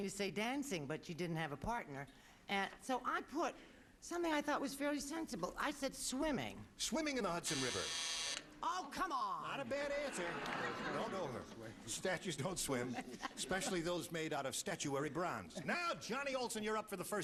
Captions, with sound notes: BUT SHE DIDN'T HAVE A PARTNER. SO I PUT SOMETHING I THOUGHT WAS FAIRLY SENSIBLE. I SAID SWIMMING. SWIMMING IN THE HUDSON RIVER. [BUZZER] OH, COME ON! NOT A BAD ANSWER. STATUES DON'T SWIM, ESPECIALLY THOSE MADE OF STATUARY BRONZE. NOW JOHNNY OLSEN, YOU'RE UP FOR THE FIRST TIME.